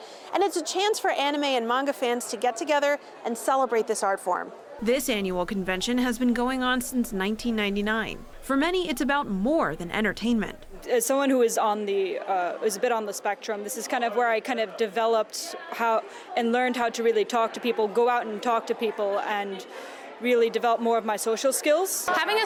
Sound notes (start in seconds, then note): 5.1 voice-over